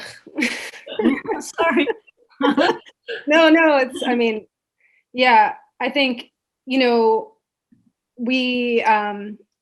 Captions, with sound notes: (laughs) - No, No, It's, I mean, yeah, I think, you know, we,